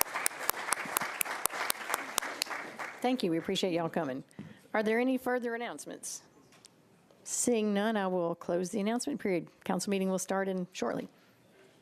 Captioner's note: applause